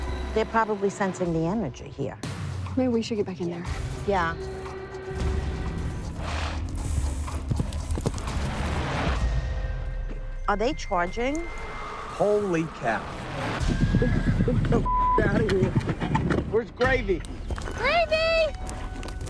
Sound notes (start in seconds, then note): 13.4 horse whinnying